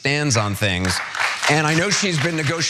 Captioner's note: applause